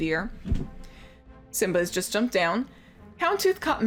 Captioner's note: thump